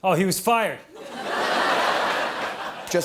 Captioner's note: laughter